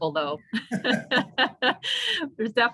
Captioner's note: both laughing